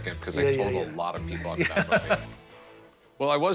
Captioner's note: laughter